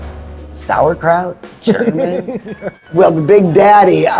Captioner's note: laughs